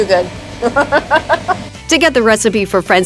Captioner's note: continues laughing